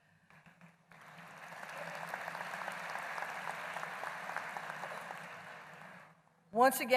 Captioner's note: applause